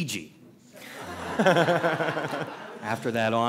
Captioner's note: laughter